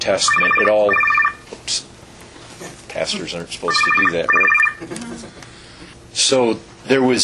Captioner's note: phone ringing